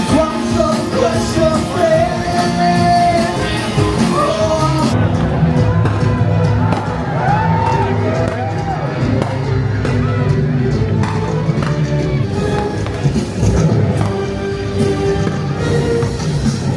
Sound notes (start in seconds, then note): 6.3 dramatic music; 7.6 fireworks popping